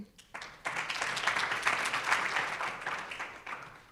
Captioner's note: audience applauds